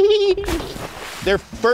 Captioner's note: water splash